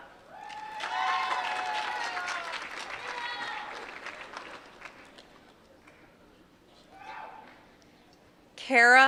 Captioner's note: applause